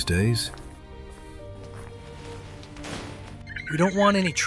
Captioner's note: shutter closing